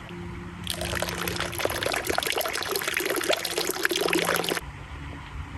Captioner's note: sound of water